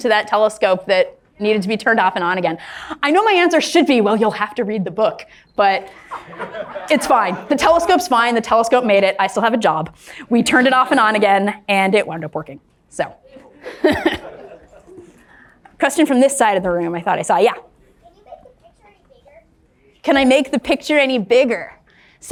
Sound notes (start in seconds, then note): 13.2 laughs